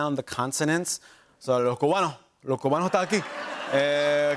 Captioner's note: speaking Spanish; laughter and applause